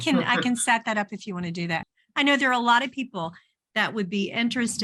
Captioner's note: chuckles